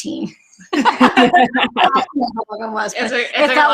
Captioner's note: laughs